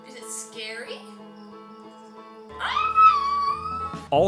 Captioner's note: nervous girlfriend noises